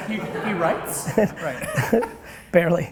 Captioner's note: laughter